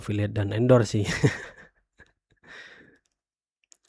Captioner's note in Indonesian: tertawa